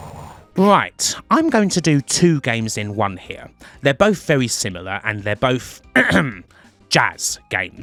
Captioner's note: ahem